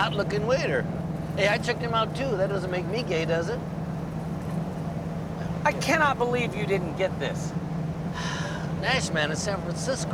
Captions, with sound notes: Hey, I checked him out, too. That doesn't make me gay, does it? I cannot believe you didn't get this. (sighs)